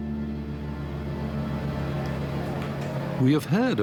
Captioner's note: boat rumbling